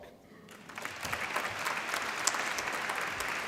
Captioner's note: applause